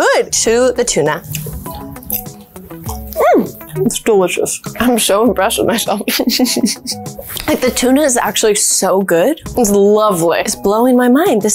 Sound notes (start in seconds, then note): 6.0 laughs